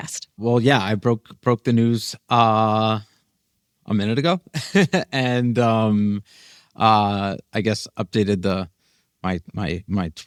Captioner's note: laughs